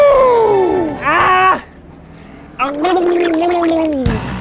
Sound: gargling; upbeat music

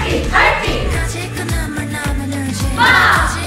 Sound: cry!

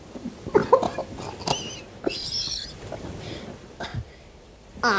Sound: coughing

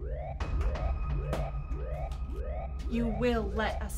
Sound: head thumping

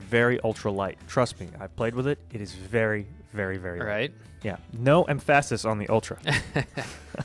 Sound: laughs

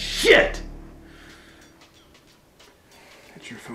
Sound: cell phone rings

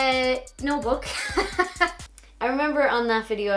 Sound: laughs

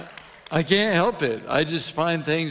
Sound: audience applauding

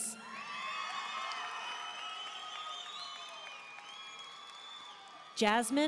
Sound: audience cheering and applauding

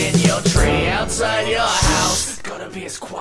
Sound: shh!

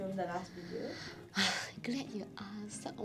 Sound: sighs

